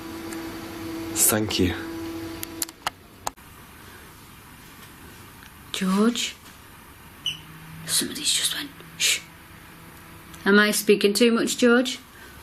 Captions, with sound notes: Thank you. - George? (beep) Somebody just went shh. Am I speaking too much George?